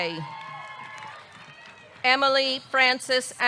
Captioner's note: audience cheering; audience clapping